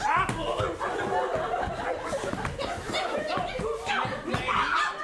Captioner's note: fighting noises